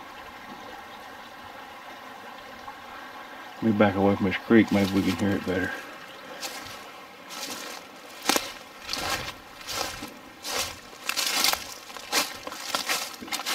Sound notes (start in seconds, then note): 0.2 burbling water; 6.6 leaves crunching